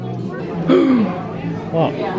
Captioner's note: gasps